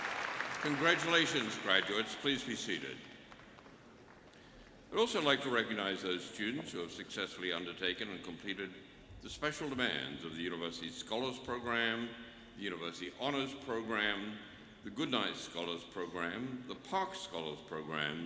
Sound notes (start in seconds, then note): 2.8 applause